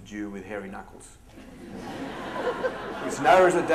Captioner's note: laughter